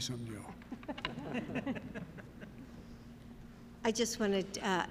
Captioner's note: laughter